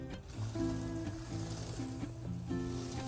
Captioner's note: bearing rolling noises